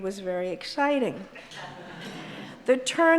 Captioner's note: audience laughs